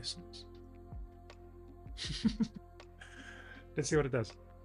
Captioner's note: laughs